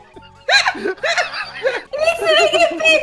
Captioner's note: laughter